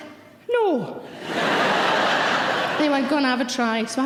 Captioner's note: audience laughing